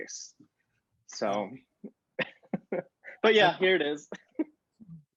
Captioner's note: chuckles